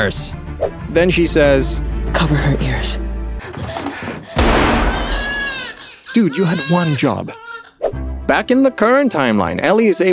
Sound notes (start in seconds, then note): 3.2 baby crying; 4.4 gunshot